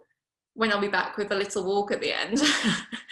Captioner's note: laughs